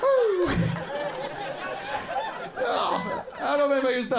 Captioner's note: audience laughing